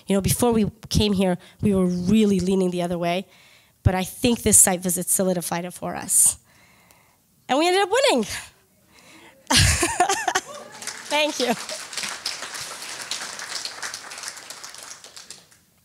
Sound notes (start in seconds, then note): 9.4 laughs; 10.4 cheering